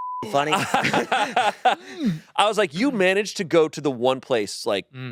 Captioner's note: laughs